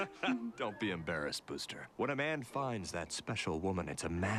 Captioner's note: laughs